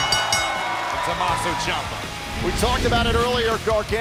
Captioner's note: bell ringing